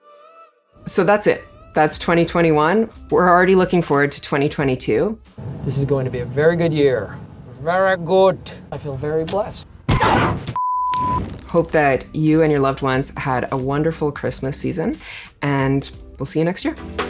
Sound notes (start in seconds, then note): 9.8 brakes screech; 9.9 thumps on car